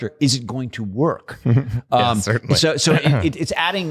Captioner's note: chuckles